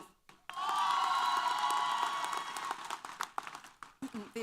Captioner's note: applause & Cheers